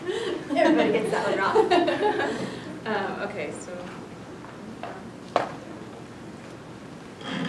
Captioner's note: laughter